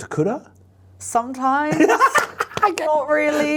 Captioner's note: laughs